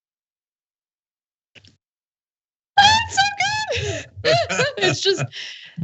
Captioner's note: laugh